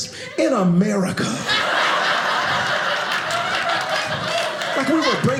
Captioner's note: audience laughing